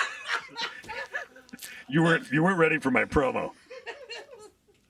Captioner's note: laughter